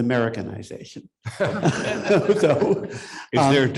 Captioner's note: audience laughs